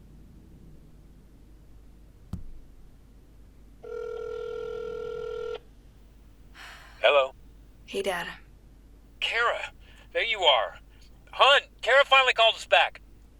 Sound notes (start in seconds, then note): 3.8 line ringing; 7.2 on phone